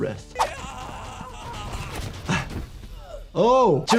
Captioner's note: character yelling